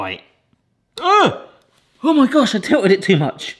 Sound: groans

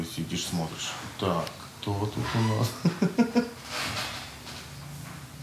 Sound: laughs

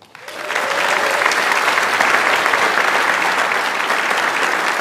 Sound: audience applauds

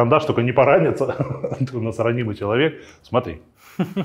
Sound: laughs

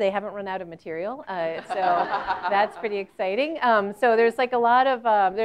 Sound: laugh

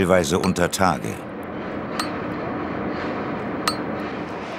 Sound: machine noise in the background

